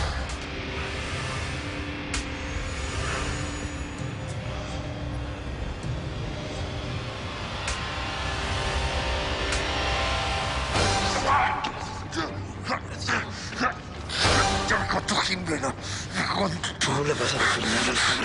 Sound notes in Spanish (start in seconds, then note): 11.2 Grito